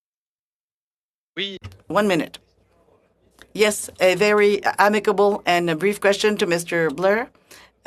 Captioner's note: speaking French